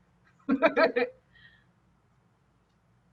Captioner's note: laughing